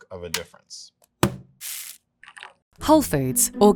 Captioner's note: bag thudding and coffee pouring